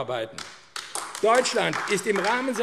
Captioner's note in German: Beifall AfD